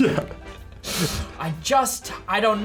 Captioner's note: laughs